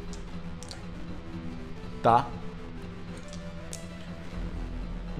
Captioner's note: dice sounds